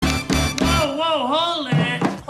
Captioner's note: drumsticks smacking; mambo music